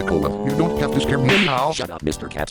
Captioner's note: slap